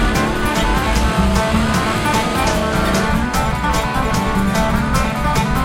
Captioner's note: motorcycle passes